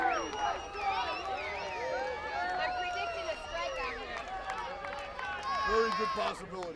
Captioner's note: applause